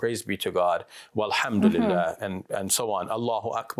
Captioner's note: speaks foreign language